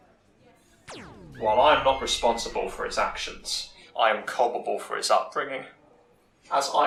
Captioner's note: laser blasting and river song screaming